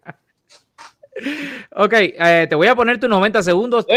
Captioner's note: laughs